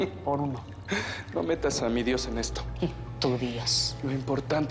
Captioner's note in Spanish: Riendo